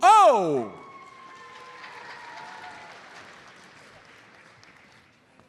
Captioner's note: audience applauds